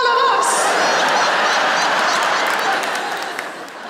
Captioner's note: laughter